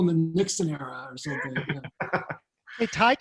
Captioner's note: laughing